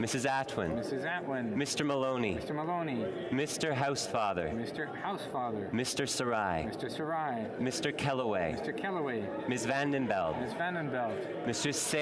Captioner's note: calling of recorded vote